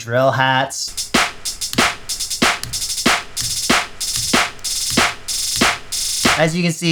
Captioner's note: increasing drill hat sounds